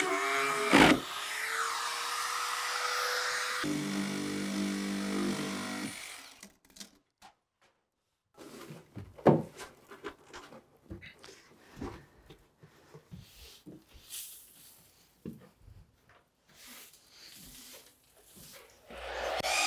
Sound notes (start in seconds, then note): 9.4 steps thumping; 13.9 broom swishing